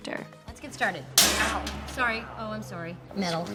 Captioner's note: loud bang